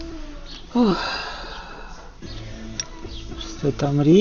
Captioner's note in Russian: вздыхает